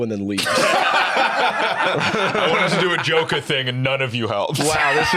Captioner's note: laughs